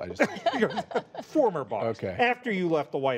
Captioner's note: laughter